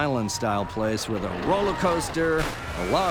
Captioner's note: faint screaming, splashing